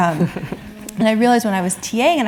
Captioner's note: laugh